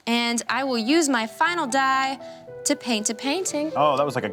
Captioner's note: none